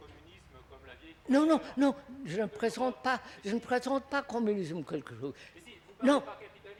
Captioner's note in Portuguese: Francês